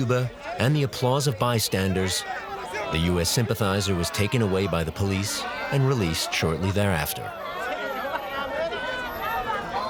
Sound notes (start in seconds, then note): 7.2 lively chatter